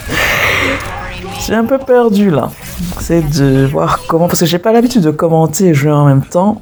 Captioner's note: laughs